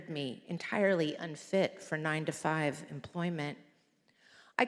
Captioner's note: none